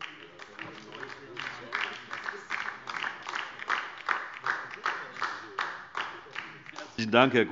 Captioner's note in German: Beifall DIE LINKE